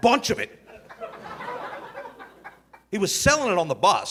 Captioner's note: audience laughing